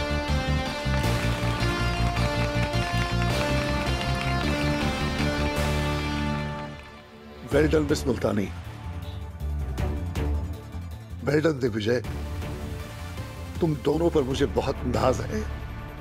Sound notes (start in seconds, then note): 0.7 applause